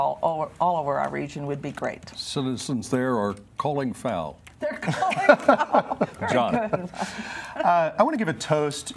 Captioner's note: laughter